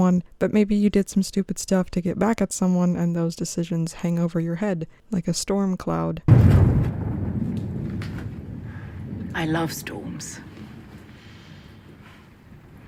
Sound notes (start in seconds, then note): 6.2 loud thunder crashes